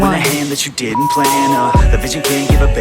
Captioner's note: beep; upbeat music